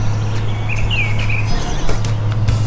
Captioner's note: really loud birds